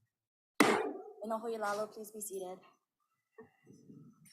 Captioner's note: gavel bangs once